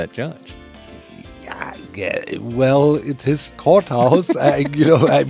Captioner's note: mutters; laughs